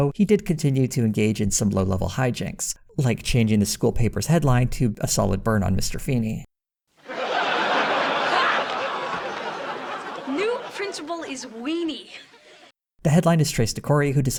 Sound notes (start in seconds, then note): 7.0 audience laughter